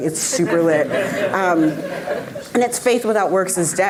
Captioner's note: audience laughing